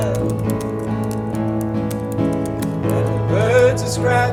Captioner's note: keyboard clacking